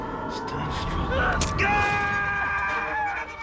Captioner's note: cris fort; musique tendue